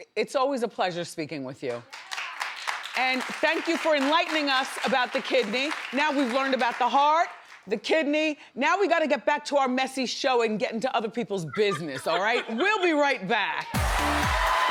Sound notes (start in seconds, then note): 1.6 audience claps; 11.4 Debbie laughs; 13.6 audience cheers; 13.7 energetic music